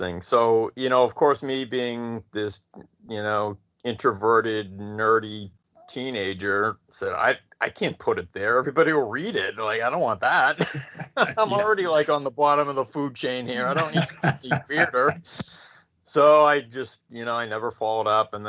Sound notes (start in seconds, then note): 10.0 chuckles; 13.2 laughing